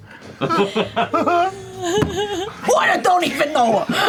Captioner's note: laughter